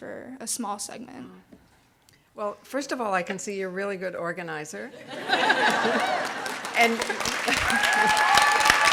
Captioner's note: audience laughing; clapping and cheering